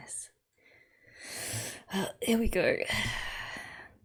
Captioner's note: sharp intake of breath